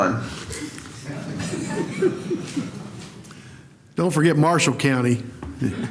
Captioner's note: laughter